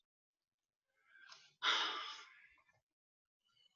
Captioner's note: woman sigh